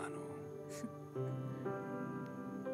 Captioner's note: Chuckles